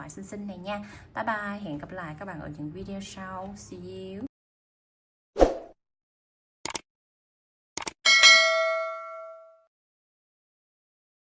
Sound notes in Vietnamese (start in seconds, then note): 8.0 chuông